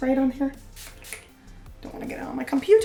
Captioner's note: sprays